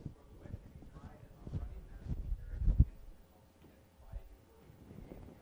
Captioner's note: speaks off microphone